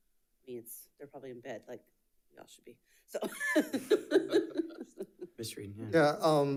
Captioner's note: laughs